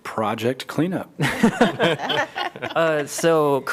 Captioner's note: laughter